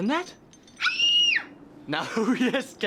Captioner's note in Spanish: grita fuerte; riendo